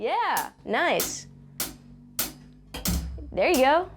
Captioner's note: drumstick tapping